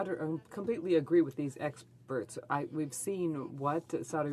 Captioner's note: speaking in french